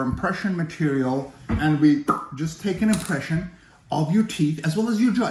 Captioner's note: popping noise